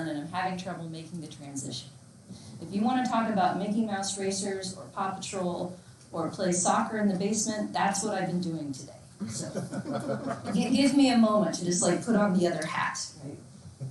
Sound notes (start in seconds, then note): 9.3 laughs loudly